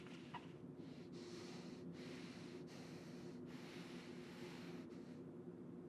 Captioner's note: Alex breathing heavily